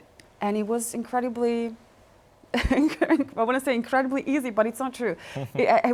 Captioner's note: laughs